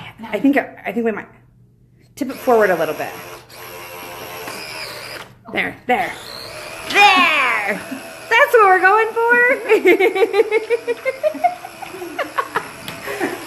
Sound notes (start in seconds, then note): 6.1 money gun running; 9.1 laughing